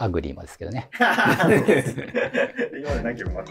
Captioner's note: laughing